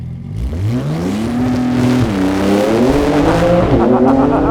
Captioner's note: car engine revving; laughing